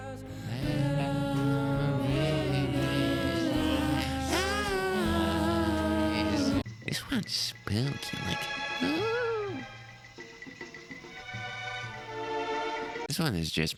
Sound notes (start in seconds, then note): 5.5 very pretty oohs, too